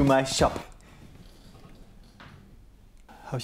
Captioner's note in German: Stille